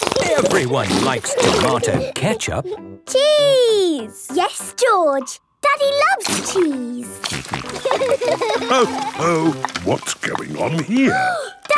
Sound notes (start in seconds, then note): 7.2 snorting; 7.8 laughter